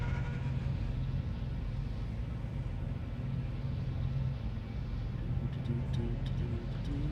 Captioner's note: humming